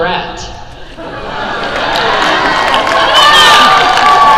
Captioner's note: crowd cheer